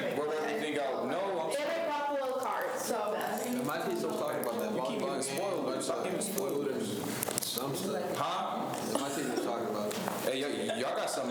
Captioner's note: students chatter